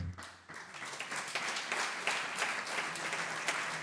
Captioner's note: audience applauds